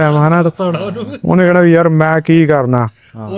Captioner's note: laughs